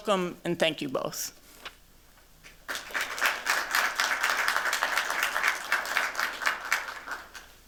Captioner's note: applause